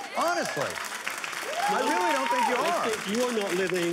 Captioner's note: applause